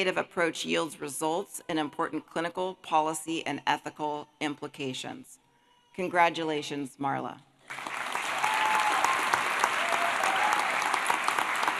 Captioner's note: applause